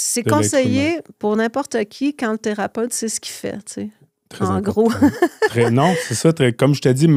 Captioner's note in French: rires